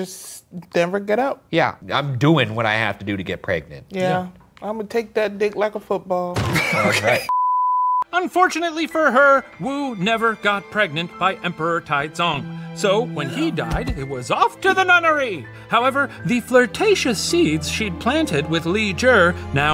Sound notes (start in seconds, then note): 6.5 professor laughs